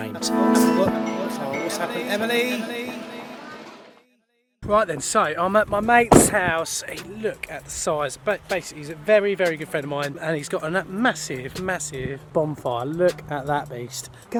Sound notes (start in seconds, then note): 0.0 piano playing; 1.6 glasses clinking